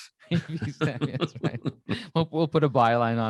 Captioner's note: laughing